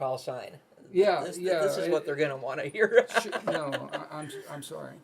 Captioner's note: laughs